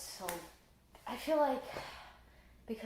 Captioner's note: +sigh+